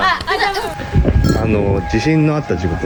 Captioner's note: siren